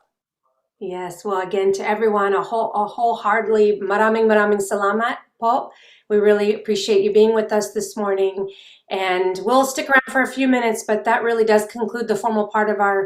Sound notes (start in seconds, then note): 2.7 speaking foreign language